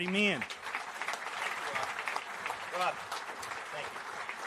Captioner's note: applause